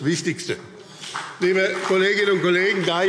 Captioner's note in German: Beifall BÜNDNIS 90/DIE GRÜNEN und vereinzelt CDU